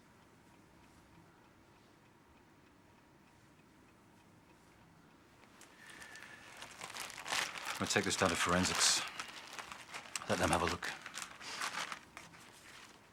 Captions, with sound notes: (plastic rustles) I'm gonna take this down to forensics. Let them have a look.